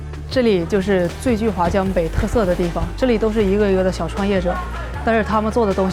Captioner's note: speaking foreign language